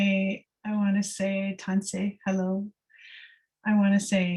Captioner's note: non-english speech